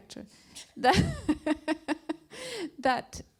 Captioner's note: laughs